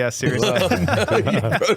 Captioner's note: laughing